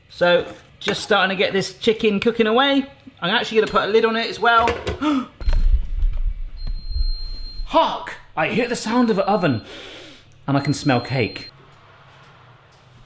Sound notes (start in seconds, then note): 5.0 gasps; 5.4 oven timer; 9.8 sniffs